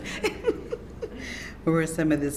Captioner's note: laughs